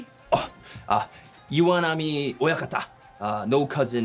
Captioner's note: speaking in foreign language